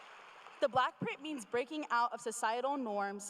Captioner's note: cheers and applause